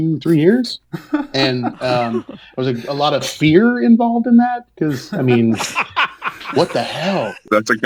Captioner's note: laughing